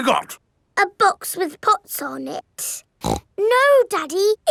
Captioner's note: snorts